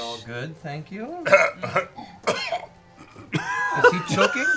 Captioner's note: laughs, then coughs